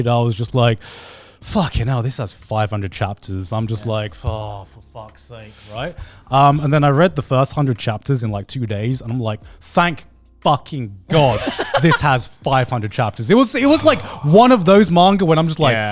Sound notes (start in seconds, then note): 11.1 laughs